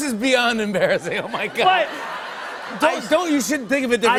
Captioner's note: laughter